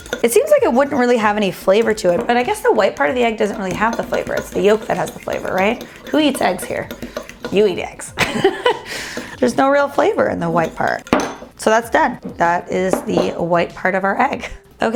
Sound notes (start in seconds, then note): 8.2 laughs